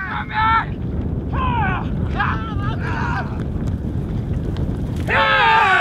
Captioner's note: shouting